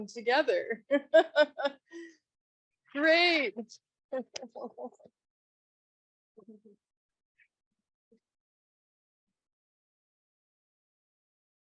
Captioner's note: laughs